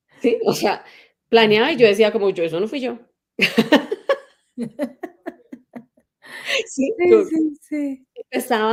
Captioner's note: laughs